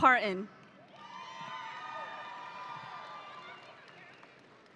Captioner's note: audience cheering